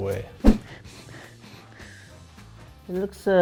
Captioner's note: sniffing